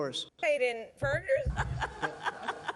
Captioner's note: laughing